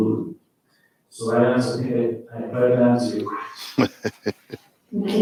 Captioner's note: faintly speaking